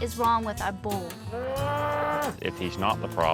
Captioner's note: moos loudly